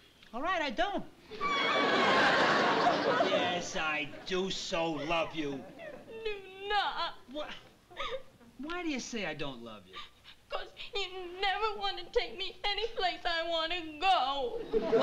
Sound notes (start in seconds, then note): 1.3 sobbing